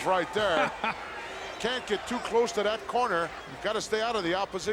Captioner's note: laugh